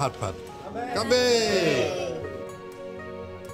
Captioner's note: toasting in chinese